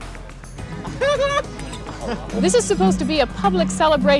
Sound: chuckling

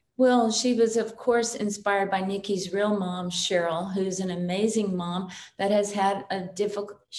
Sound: none

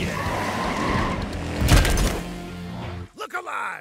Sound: tires squealing

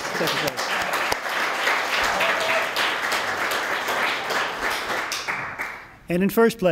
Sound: applause

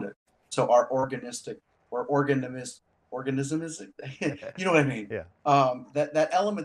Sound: laughs

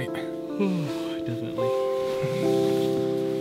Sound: yawns

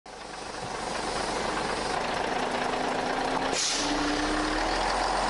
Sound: bus engine noises; engine noises fade

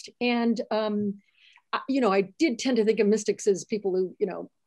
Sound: none

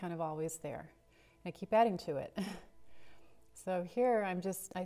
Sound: chuckles

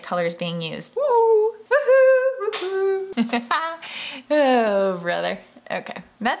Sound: laughs

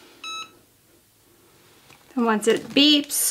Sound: press beeps

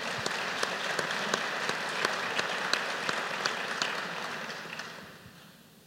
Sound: applause

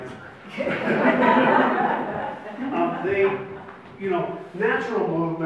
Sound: audience laughs

